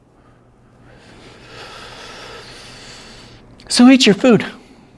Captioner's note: deep breath